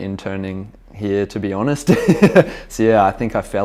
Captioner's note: laughing